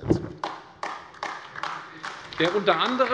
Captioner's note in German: Beifall AfD